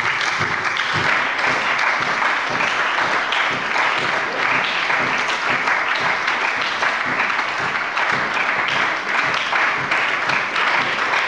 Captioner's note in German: Beifall bei der SPD